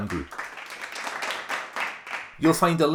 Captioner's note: applause